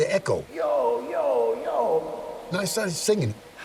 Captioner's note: echoing